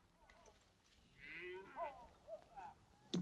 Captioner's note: cattle mooing